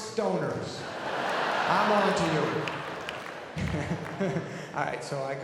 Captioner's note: audience laughing; laughs